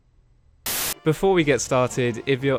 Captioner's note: white noise